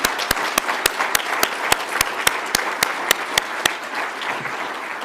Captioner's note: audience applauds